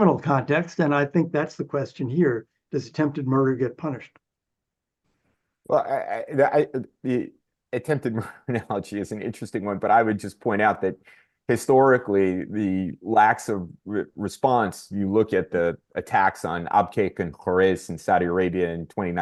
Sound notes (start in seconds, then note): 7.8 laughs